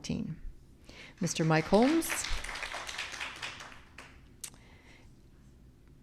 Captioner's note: audience clapping